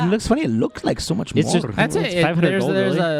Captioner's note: laughter